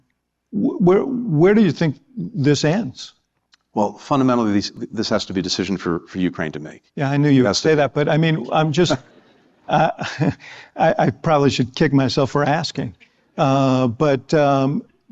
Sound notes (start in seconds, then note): 8.8 laughter